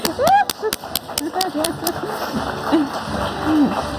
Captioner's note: audience applauding